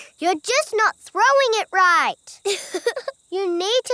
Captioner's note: chuckles